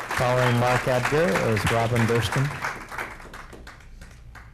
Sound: cheers and applause

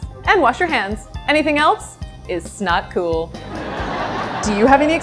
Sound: laughter

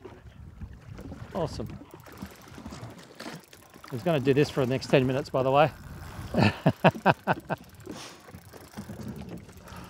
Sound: laughs

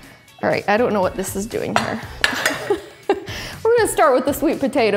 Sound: laughs

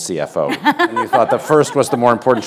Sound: laughter

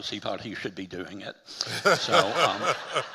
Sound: audience laughing

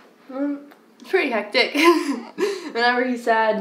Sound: laughs

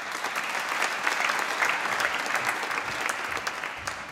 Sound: applause

